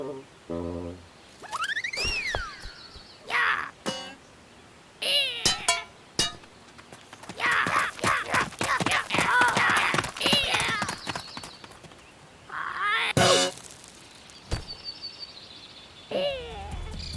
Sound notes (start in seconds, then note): 1.5 silly whistle; 6.2 clanging; 10.3 footsteps departing; 12.8 cymbal crash; 14.5 thud; 15.8 groan